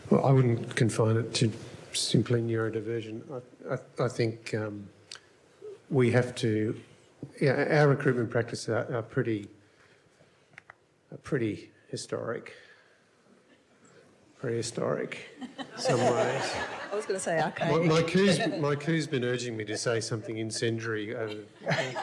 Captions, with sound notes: - Well, I wouldn't confine it to simply neurodiversion. I think we have to... Yeah, our recruitment practices are pretty historic. (audience laughs) Prehistoric in some ways. (audience laughs) - I was gonna say archaic- - My cue's been urging me to say something in sundry